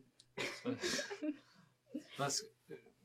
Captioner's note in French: rires